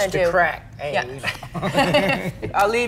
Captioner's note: laughs